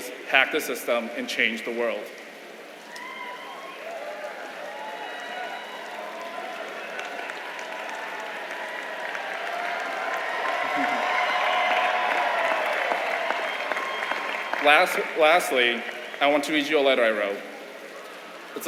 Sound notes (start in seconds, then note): 3.5 applause